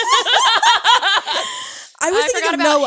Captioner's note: all laughing